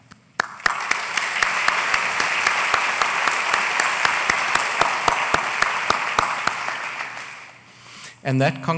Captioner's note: applause